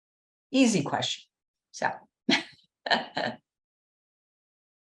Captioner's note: chuckles